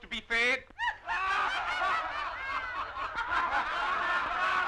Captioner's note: crowd laughing